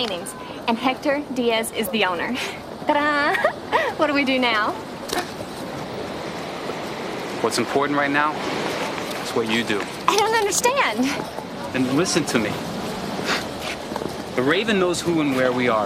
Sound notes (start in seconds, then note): 2.8 laughs; 4.8 gasps; 13.1 chuckles